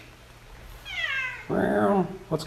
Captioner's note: cat meows